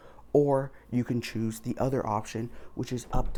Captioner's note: door thuds